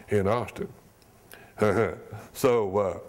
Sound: chuckle

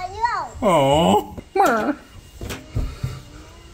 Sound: whimpers

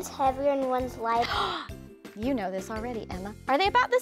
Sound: gasps

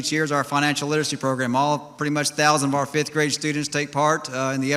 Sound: none

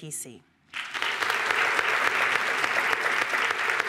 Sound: applause

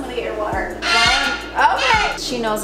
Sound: bird starts squawking

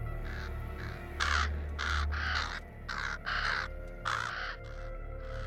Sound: cawing Continues

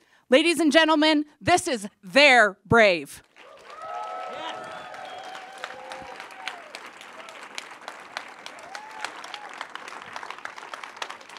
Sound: applause

